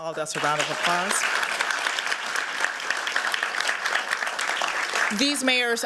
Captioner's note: applause